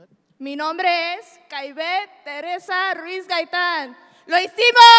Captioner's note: speaks in Spanish